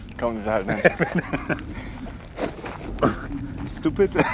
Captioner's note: laugh